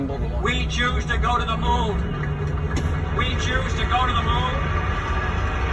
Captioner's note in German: Menge klatscht